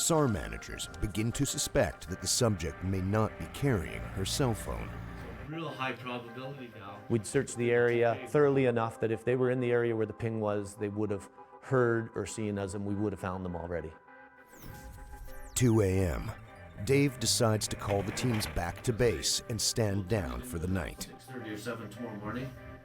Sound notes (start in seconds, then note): 3.8 siren blares; 5.9 voiceover